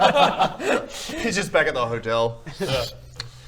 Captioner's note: sip